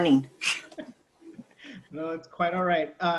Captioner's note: laughs